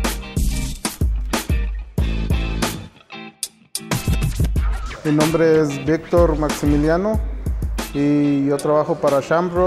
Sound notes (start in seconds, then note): 0.2 upbeat electronic music; 5.1 speaks in foreign language